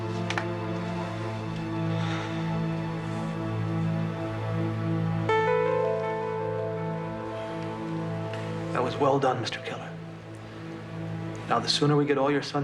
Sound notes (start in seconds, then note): 1.9 sighs